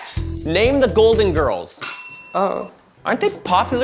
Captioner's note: bell rings